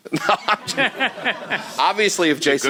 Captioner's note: chuckling